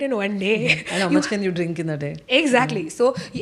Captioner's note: laughs